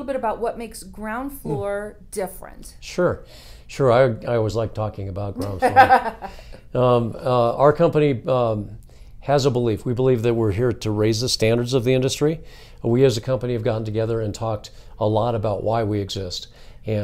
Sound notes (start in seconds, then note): 5.4 laughs